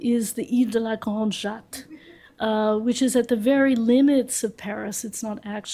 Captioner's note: french